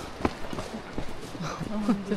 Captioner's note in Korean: 터덜터덜